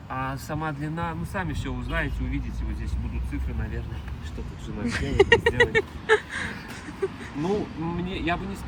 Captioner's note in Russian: смех